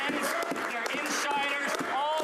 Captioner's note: applause